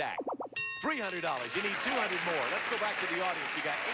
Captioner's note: audience applauding